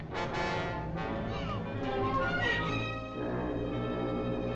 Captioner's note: sobbing; foghorn Blows